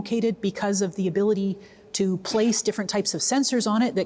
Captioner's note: none